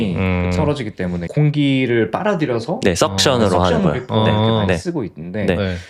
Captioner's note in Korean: 목을 가다듬음